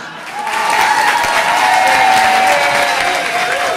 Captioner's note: audience applauding